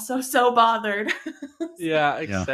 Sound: laughs

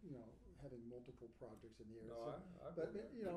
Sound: speaking faintly

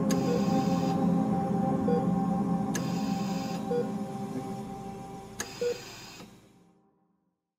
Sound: respirator beeping

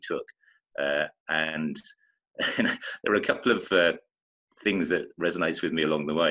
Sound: chuckling

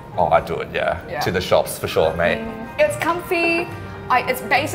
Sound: none

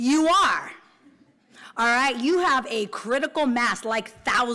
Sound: laughter

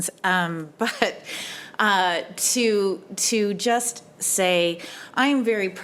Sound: chuckles

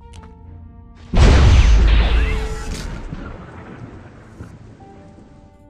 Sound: Hellhound transforming to human sounds

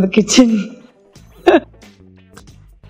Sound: laughter

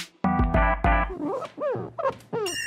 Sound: rub rub

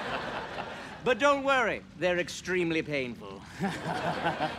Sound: laughter

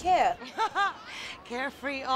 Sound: laughs

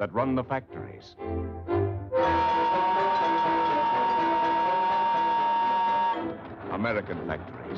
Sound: whistle Blows

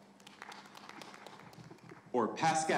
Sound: audience applauding

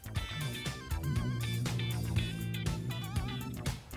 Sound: growl

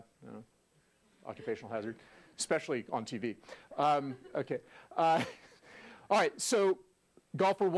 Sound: laugh

